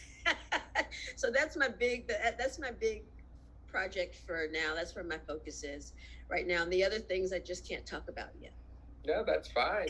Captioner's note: laughs